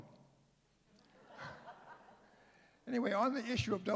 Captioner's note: laughter